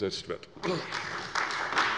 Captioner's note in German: Beifall bei der CDU und dem BÜNDNIS 90/DIE GRÜNEN